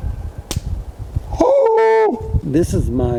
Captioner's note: firewood snaps; yelps